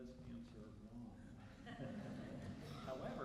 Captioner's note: laughter